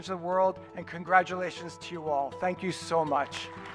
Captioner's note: cheers and applause